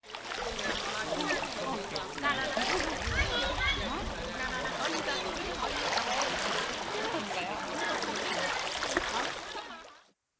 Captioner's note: water flowing